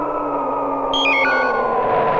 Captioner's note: electronic beep